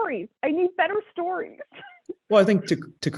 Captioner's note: laugh